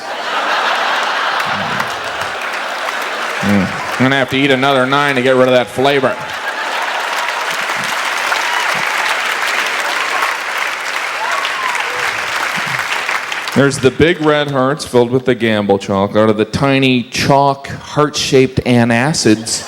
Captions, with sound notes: (audience laughs) I'm gonna have to eat another nine to get rid of that flavor. (audience laughs and cheers) There's the big red hearts filled with the gamble chocolate or the tiny, chalk, heart-shaped antacids.